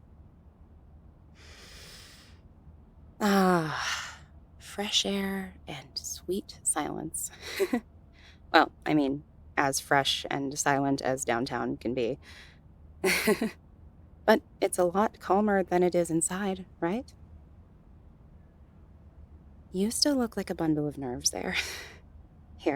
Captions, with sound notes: *Inhales* Ahhh, fresh air and sweet silence. Well, I mean, as fresh and silent as downtown can be. *nervous chuckle* But, it’s a lot calmer than it is inside, right? You still look like a bundle of nerves there.